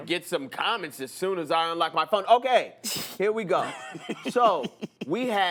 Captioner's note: laughs